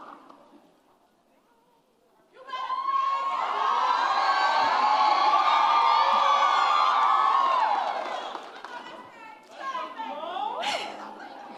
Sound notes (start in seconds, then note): 3.4 applause and cheering